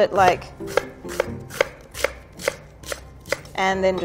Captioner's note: knife tapping against wooden board